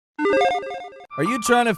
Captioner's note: logo beeps